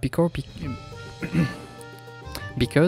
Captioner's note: french throat clearing